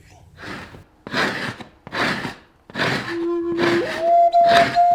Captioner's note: scraping of animal hide; peaceful music